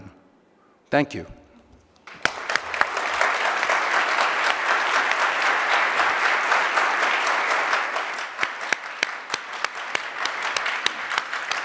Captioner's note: applause